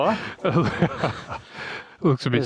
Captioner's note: laughing